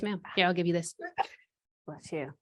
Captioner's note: sneezing